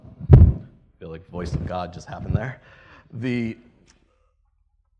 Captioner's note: laughs